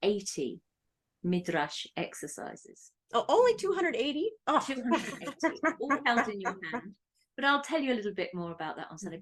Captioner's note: laugh